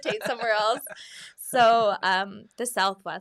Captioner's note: laughs